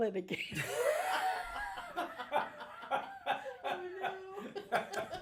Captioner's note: group laughs